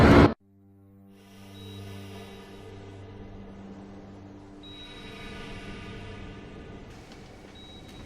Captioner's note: heavy breathing and heart monitor noises